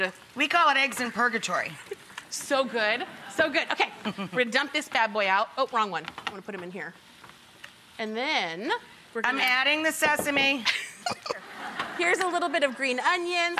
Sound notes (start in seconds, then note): 10.6 laughter